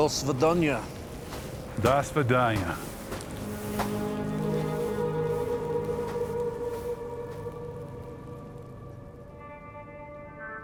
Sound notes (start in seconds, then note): 0.1 speaking foreign language; 5.1 footsteps thudding; 5.1 soft music